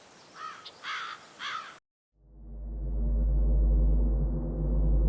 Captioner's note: bird caws; dramatic music